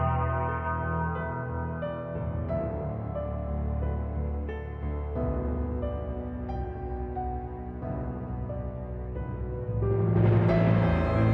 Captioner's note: bell tolls